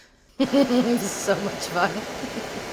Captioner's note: laughing